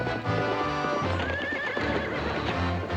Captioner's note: horses neigh